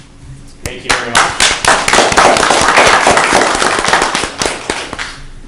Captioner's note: applause